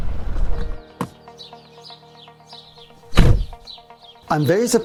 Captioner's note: birds chirping; upbeat music